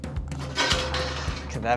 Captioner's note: pan clatters